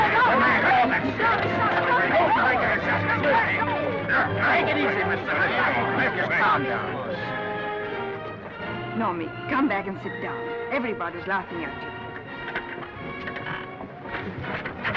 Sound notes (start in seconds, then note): 2.1 men yelling; 7.6 orchestral music